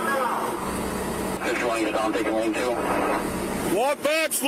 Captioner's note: radio chatter